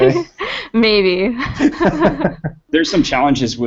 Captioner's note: laughter